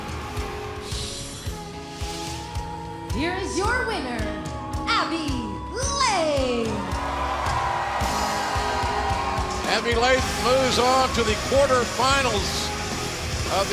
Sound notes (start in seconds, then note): 0.1 bell ringing; 6.3 cheers and applause